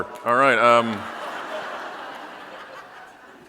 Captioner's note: audience laughing